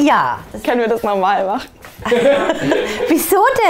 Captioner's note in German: Lachen